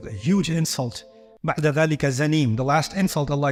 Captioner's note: Arabic